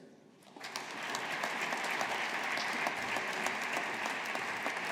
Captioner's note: audience applauding